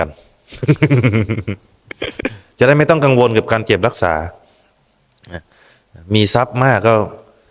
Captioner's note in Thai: เสียงหัวเราะ